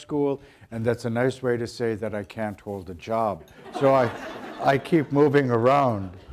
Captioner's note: audience laughter